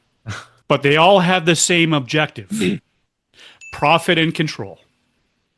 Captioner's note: clears throat